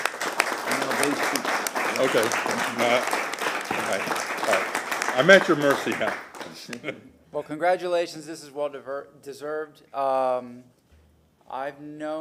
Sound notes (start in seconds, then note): 3.2 applause